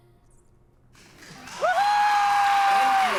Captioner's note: cheering